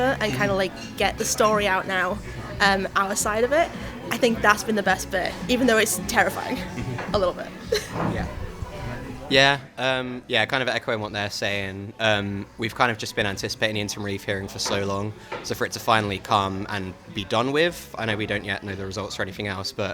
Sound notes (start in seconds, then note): 7.6 chuckles